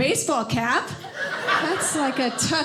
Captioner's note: audience laughing